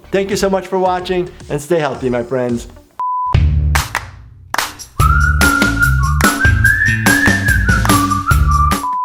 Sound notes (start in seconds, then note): 3.0 color bars beep; 3.3 upbeat music